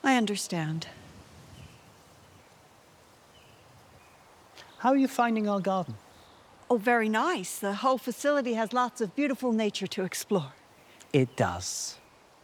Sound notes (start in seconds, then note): 1.7 birds chirping; 1.7 wind rustling